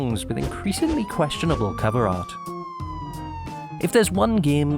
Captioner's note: police sirens